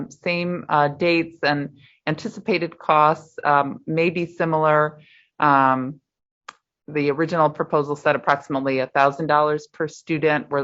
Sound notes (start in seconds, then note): none